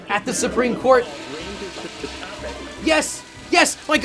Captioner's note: toilet flushes